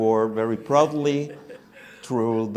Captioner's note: laughter